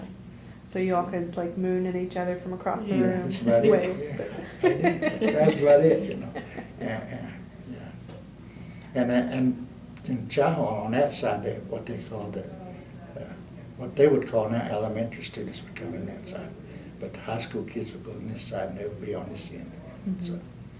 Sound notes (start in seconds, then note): 4.3 laughter